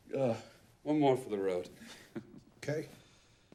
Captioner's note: chuckles